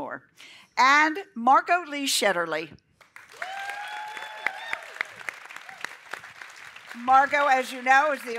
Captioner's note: applause